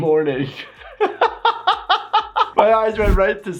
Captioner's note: laughing